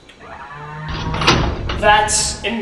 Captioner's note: door